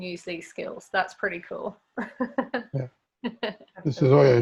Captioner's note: laughs